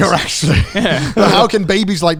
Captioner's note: chuckles